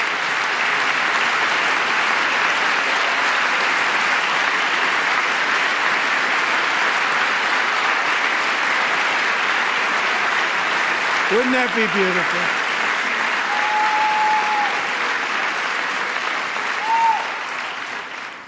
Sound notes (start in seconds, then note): 3.8 applause